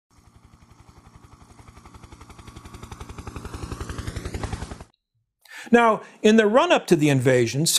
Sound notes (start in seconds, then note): 0.1 helicopter in flight